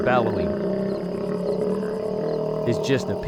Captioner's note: gator bellowing